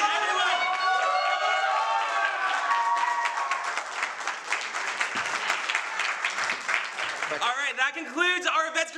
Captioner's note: applause